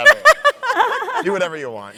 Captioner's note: laughs